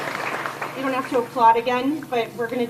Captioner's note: cheers and applause